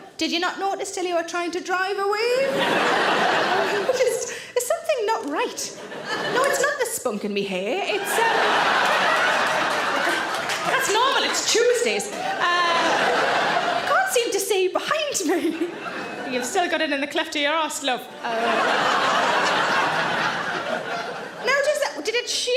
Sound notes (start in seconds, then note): 2.4 audience laughs; 7.9 audience laughs; 18.2 audience laughs